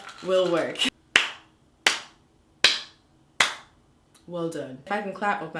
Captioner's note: clapping